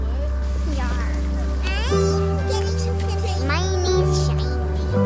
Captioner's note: children chattering